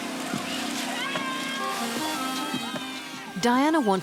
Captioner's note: cheering